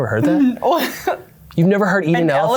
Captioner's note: laughs